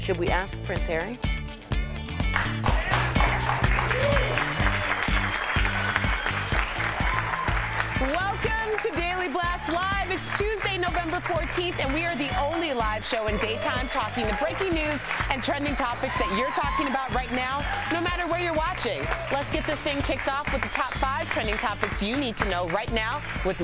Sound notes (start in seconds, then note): 4.7 applause